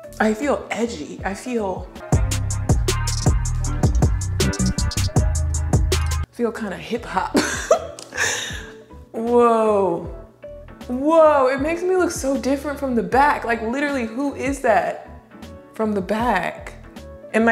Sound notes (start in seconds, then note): 2.5 upbeat music; 7.4 laughs